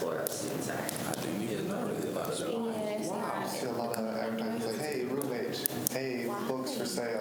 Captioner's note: students chatter